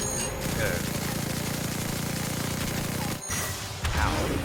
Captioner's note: guns firing